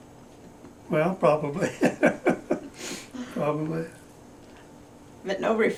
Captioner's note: laughs